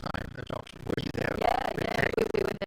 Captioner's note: speaking faintly